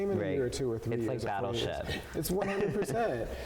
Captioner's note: laughs